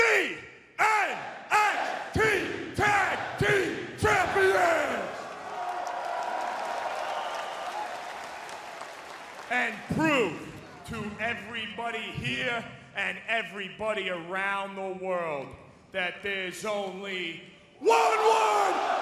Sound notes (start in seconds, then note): 4.1 crowd cheering